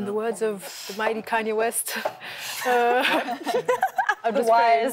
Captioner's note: laughter